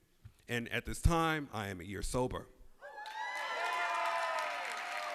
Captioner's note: cheers and applause